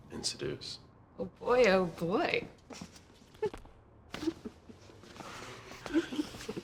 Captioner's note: giggling